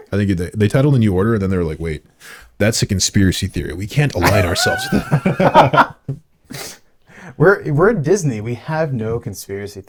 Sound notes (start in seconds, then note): 4.2 laughing